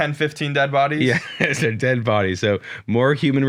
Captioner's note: laughs